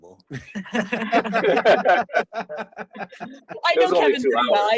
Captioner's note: laughing